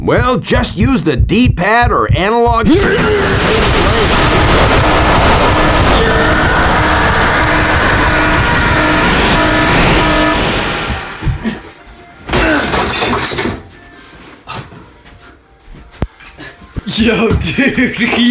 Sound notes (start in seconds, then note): 12.3 loud Shattering Noise